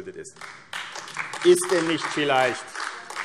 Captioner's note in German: Beifall AfD